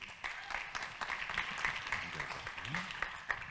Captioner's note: audience claps